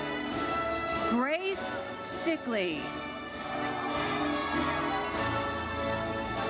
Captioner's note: audience cheers